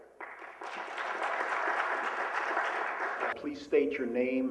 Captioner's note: applause